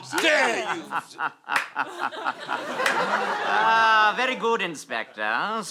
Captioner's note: sinister chuckle